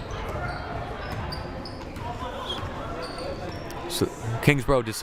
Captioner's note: crowd murmuring